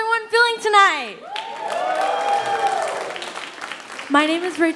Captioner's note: audience cheering and applauding